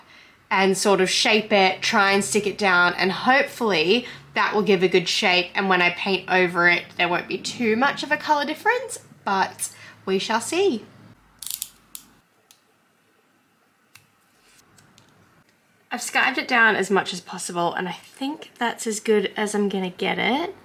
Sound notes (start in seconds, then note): 11.4 craft knife clicks; 13.9 snipping sound